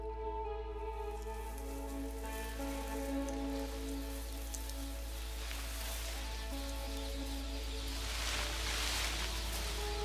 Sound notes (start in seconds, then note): 2.6 birds chirping